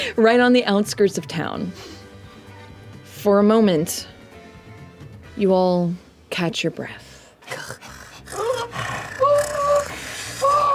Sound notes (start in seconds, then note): 7.0 heavy breathing; 7.5 calls